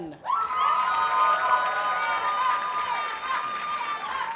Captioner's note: audience cheers and applauds